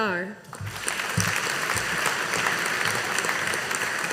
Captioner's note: audience applauding